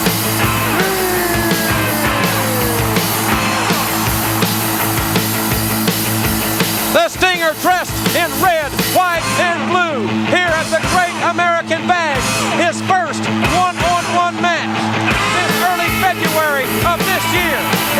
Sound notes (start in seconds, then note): 2.6 upbeat rock music continues; 4.3 crowd cheering